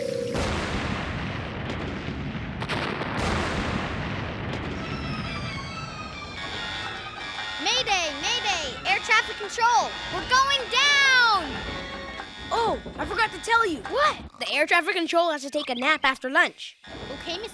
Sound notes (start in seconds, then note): 1.9 explosion; 6.7 alarm blaring